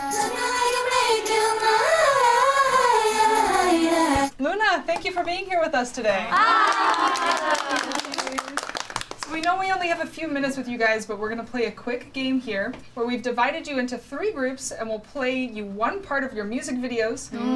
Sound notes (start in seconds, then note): 0.5 all singing along in Korean; 6.3 all exclaim and clap